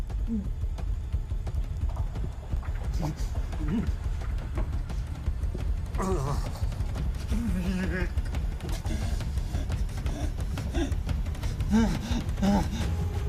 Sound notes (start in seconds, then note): 0.1 suspenseful music; 7.3 Patrick groaning